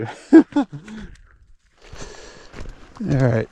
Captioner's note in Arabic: يضحك